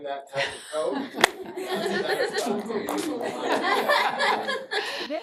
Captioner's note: laughter